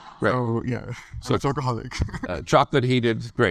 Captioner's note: laughs